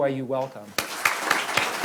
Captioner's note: applause